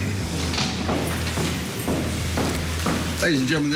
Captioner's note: heavy Footsteps